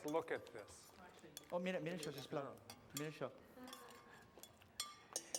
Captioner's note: non-english speech